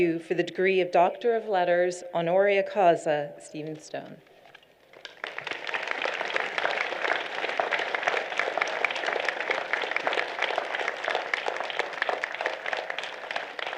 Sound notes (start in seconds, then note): 4.9 applause